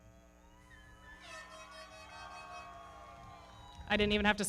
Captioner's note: audience cheering; foghorn blaring